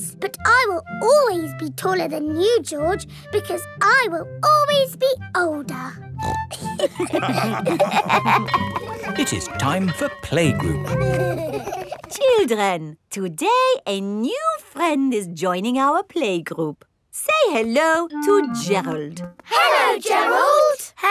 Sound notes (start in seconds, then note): 6.2 snorts; 6.6 all laughing; 8.3 school bell ringing; 10.8 giggling